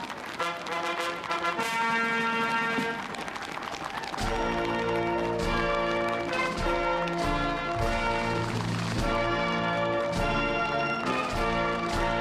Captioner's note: cheering; applause